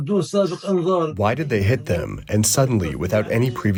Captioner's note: through translator